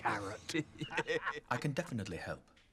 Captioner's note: men laughing